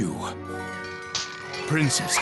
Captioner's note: slap